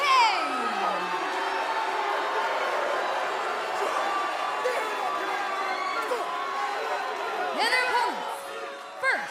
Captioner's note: crowd cheering